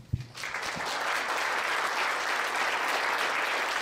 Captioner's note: applause